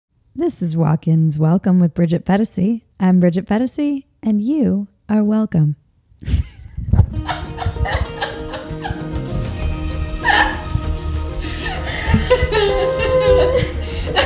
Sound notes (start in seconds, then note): 6.2 females laughing; 8.8 upbeat music